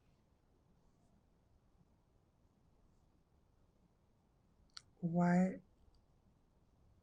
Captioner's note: pauses 6 seconds